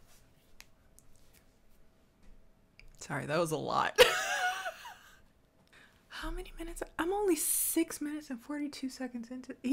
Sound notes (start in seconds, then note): 4.0 laughs